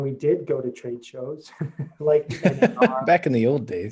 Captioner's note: laugh